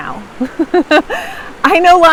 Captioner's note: laughs